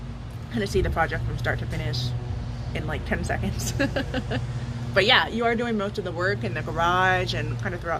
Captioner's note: laughs